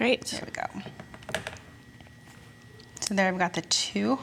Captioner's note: tool knocks against table